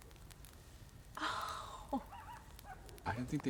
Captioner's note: distant howls